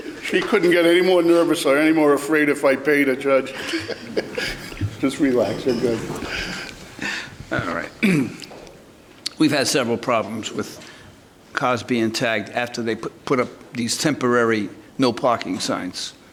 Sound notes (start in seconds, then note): 0.0 laughter; 3.4 laughter; 7.5 clears throat